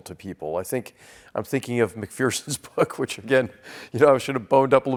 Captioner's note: laugh